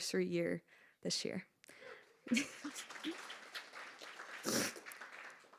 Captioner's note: audience applauding